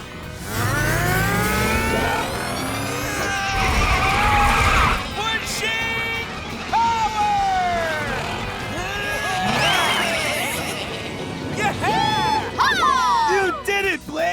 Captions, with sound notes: [straining] Pushing power! [bleating] - Yeah! - Yee-haw! You did it, Blaze!